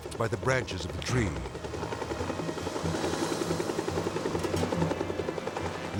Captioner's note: helicopter whirring